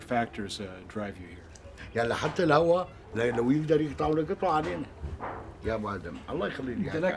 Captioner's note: speaking Arabic